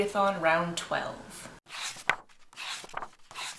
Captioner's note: pages turning